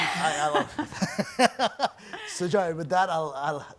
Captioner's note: laughs